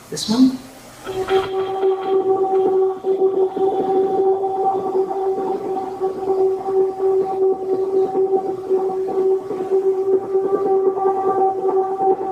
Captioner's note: pulsing sound